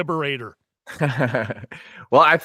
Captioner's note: laughs